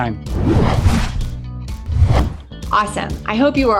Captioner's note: screen whooshing